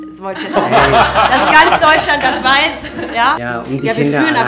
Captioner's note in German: Lachen